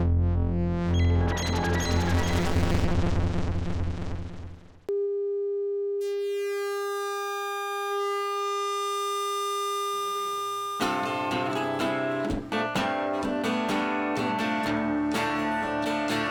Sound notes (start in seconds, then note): 0.7 electronic warbling; 6.0 sharp electronic hum; 10.8 upbeat strumming